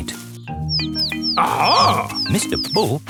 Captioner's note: chirping